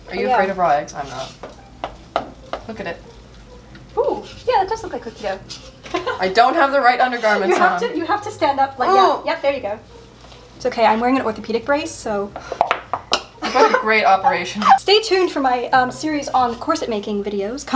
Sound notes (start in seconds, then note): 8.8 groans; 12.4 tappy tapping on brace